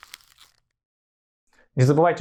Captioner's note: crumpled paper